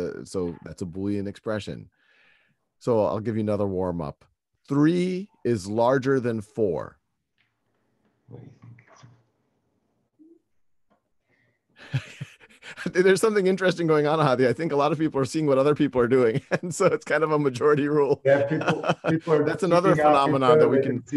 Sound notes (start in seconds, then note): 11.8 laughs; 16.2 laughs